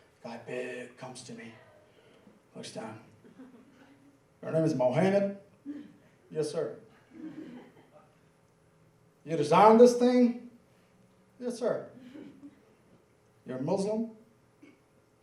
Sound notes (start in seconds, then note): 7.0 laughing